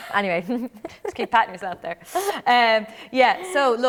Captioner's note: laughs